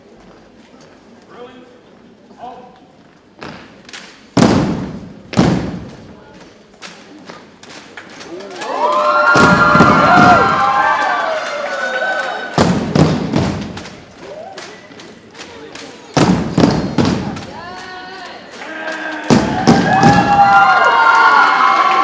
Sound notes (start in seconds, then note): 4.3 rhythmic thumping continues; 8.4 audience cheers and applauds; 12.5 rhythmic thumping continues; 18.4 audience cheers and applauds